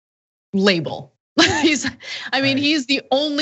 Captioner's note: laugh